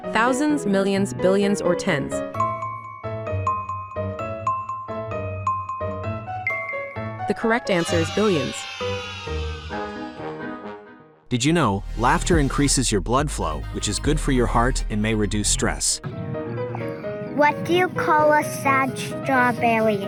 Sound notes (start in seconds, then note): 2.6 intriguing music; 7.7 children cheering; 8.5 intriguing music